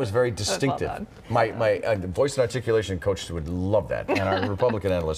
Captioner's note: laughter